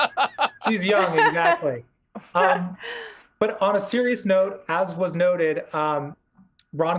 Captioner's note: laughter